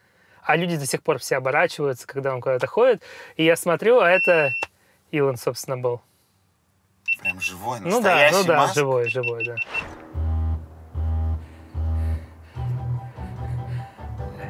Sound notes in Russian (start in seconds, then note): 7.0 машина пикает несколько раз; 9.6 машина трижды жужжит